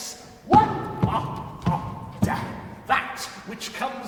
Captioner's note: bone tapping; creature stammering